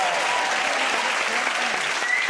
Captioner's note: cheers and applause